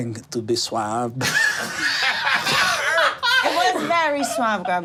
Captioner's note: group laughing